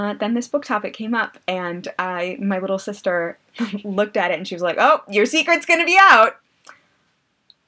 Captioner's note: laughs